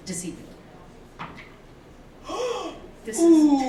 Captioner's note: gasps